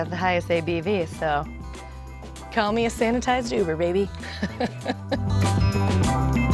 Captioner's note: laughs